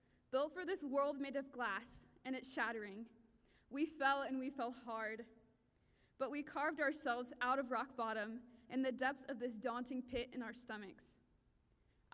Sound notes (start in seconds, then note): none